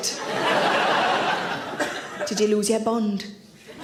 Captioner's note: audience laughs